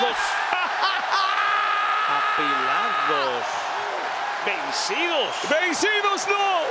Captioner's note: laugh